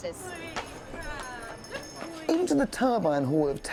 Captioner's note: indistinct chatter